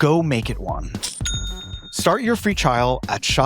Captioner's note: cash register chiming